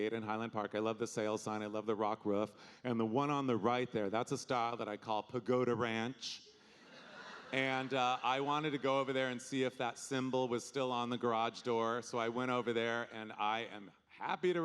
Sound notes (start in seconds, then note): 6.8 audience laughing